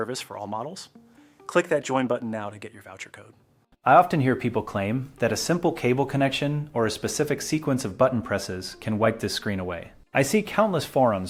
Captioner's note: speak with a steady and technical tone